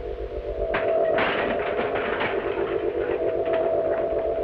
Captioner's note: pot clatters